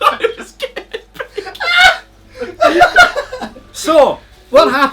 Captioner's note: laughs